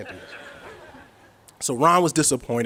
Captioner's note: audience chuckles